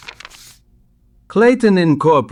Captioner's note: SFX: papers rustling